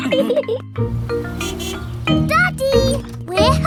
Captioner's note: horn honks